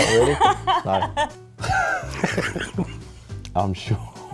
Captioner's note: laughs